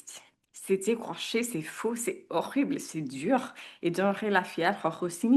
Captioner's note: speaks in French